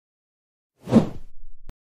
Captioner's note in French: FX - Whoosh - 03